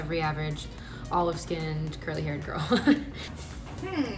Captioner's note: laughs